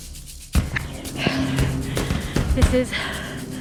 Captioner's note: heavy breathing